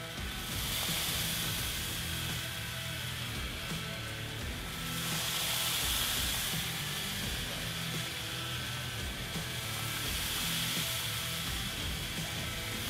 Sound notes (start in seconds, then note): 0.8 meat sizzling